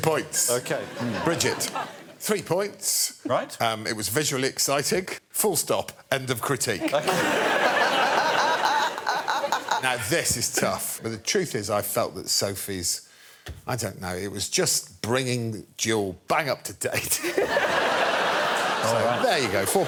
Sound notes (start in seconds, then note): 9.5 laughter